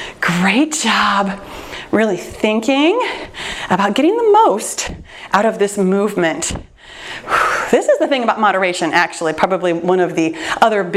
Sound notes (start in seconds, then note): 6.8 exhales deeply